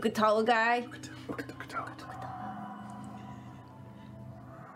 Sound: whispering

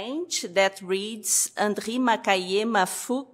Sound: french

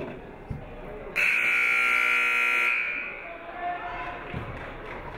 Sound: buzzer buzzes; audience clapping

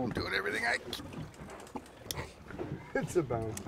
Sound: straining

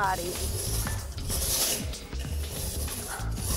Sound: sawing

